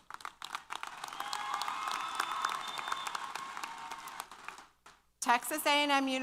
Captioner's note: applause & Cheers